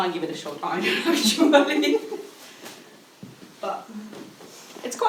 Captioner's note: laughing